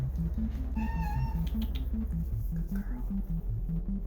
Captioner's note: cat purring; whispers